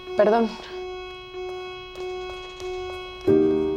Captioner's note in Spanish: Suena alarma